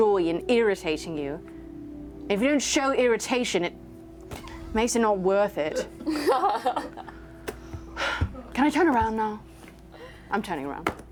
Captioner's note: sighs